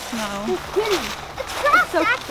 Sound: murmuring

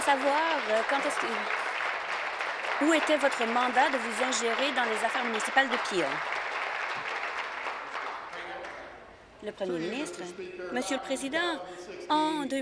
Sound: applause

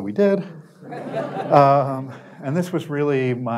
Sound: audience Laughter

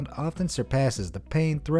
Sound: none

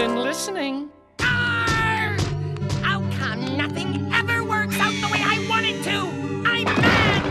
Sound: yelling

